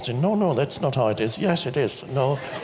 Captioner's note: audience laughs